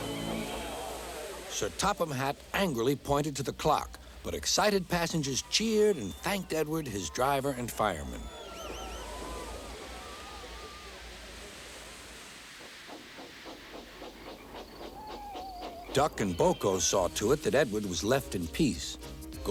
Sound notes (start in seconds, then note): 8.5 cheering